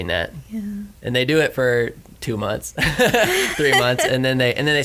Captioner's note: laughs